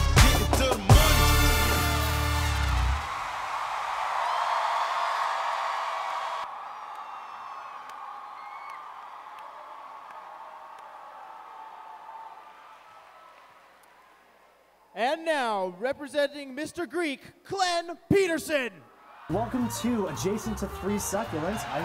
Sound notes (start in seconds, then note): 2.6 cheering